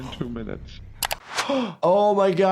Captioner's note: gasps